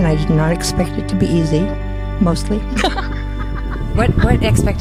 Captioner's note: laughing